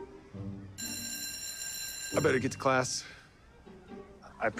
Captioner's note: bell ringing